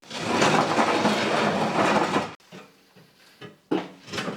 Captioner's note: machine scraping floor